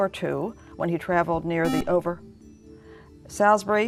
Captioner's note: buzzer